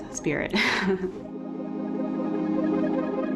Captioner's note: laughter